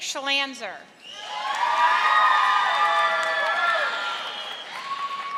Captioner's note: audience applauding